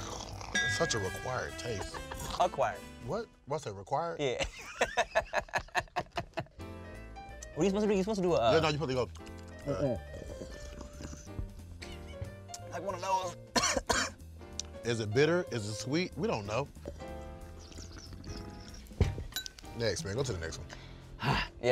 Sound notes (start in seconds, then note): 4.5 laughs; 9.0 gurgles